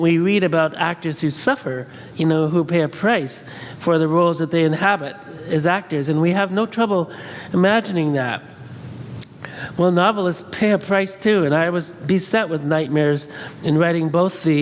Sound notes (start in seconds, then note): none